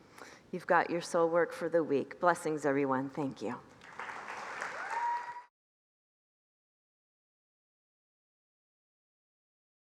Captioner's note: congregants applaud